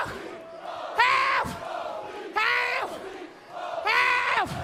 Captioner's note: fans chanting